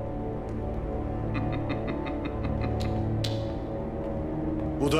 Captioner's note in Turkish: Gülme sesi